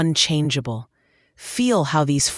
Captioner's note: pause